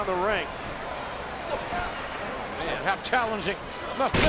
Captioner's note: audience chattering